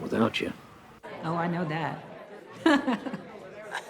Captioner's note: laughing; clint laughs